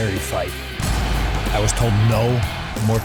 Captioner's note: crowd cheering